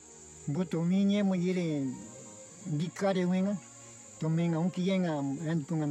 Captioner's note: speaking in foreign language